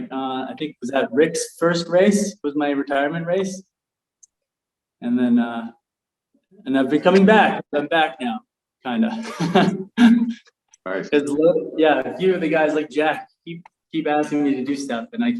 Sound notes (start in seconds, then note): 9.1 chuckles